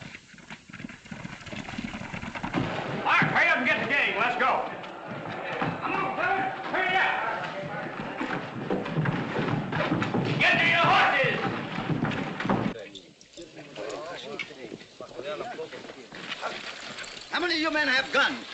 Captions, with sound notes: Go and get the gang, let's go. Come on, guys, hurry up! Get to your horses! [ MEN CHATTERING ] How many of you men have gun?